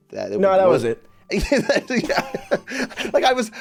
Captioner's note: both laugh